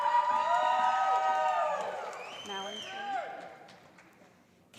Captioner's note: calling Graduate Names